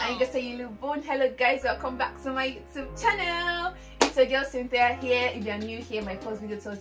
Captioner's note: Spanish; Korean